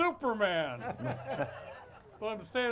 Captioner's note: audience laughs